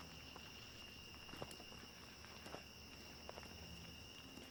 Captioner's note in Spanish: gorjeos de los insectos